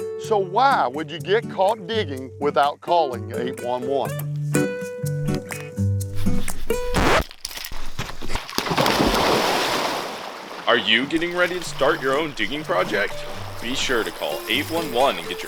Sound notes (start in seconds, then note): 4.5 charming music; 6.7 record scratch; 8.2 loud splash